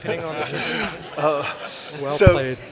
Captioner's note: laughter